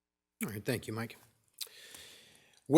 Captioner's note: none